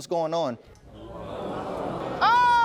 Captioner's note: audience groaning